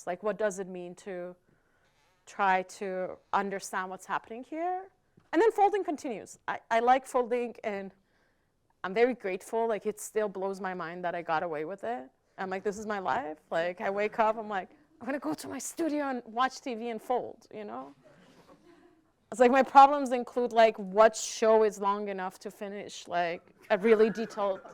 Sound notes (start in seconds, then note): 18.1 audience chuckling